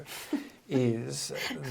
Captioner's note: laughs